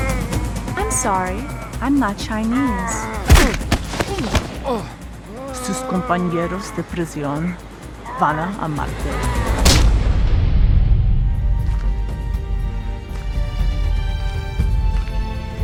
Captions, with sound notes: - I'm sorry, I'm not Chinese. (foot banging) (man grunting) (Michiko speaking in foreign language) (dramatic orchestral music)